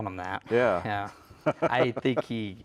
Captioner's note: laughs